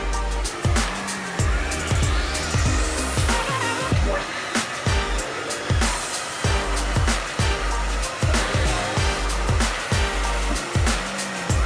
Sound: blow Dryer

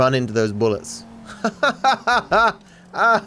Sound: laughs

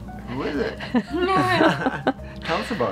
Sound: all chuckling

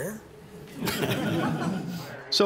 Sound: laughter

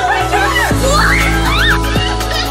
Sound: kids scream; laughs

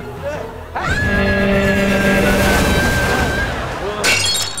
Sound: screaming

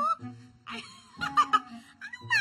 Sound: laughs

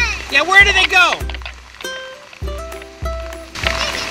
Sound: voiceover

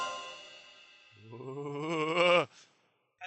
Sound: Joe shudders big

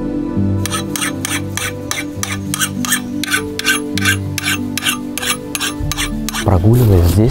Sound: clanking

